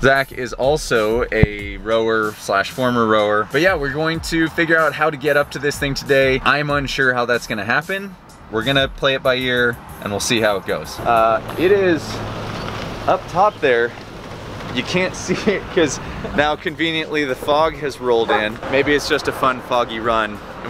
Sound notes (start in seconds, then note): 15.0 laughing